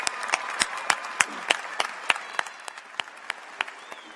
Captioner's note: applause